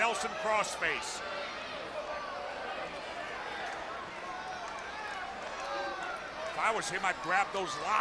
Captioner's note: crowd chatter